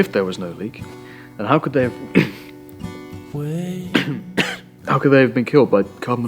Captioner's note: coughs